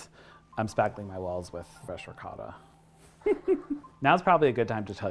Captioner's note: laughs